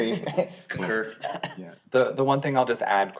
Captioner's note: laughs